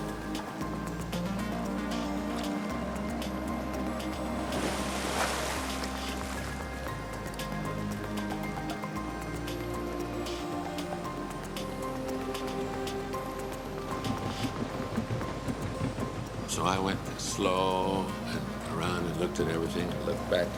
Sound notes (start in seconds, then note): 4.9 water splashing